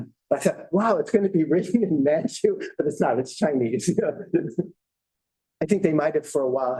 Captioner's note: chuckles